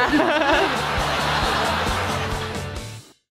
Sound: laughing

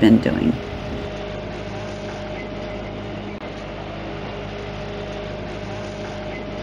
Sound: engine noise

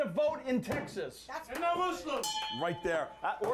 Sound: bell rings

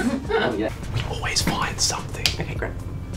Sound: whispering

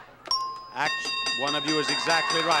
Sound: bell dings

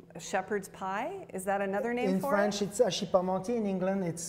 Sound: speaks foreign language

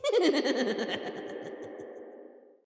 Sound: maniacal laughing

